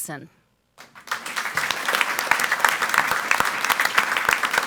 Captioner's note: audience applauds